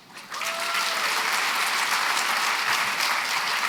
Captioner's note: applause